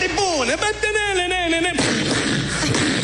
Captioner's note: humming